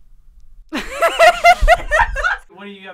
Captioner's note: laughing